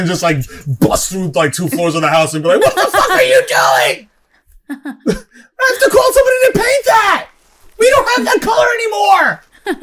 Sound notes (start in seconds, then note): 3.0 shrill tone